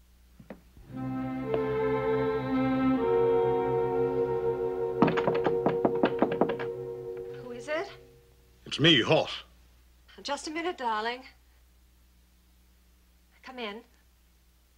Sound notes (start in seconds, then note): 5.0 Knocking